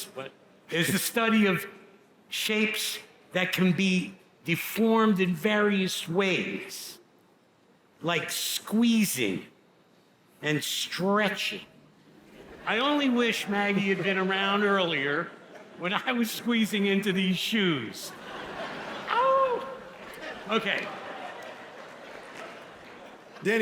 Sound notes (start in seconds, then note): 12.2 audience laughs; 21.0 audience laughs